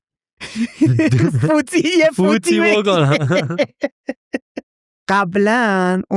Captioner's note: laughs